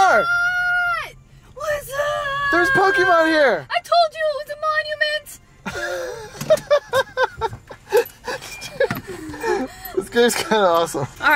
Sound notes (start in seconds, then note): 5.6 laughs